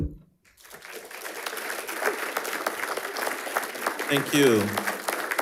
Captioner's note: attendees applauding